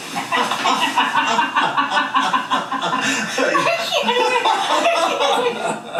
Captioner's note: laughing heartily